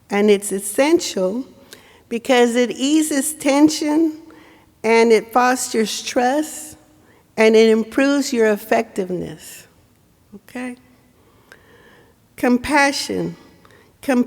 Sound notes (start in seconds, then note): none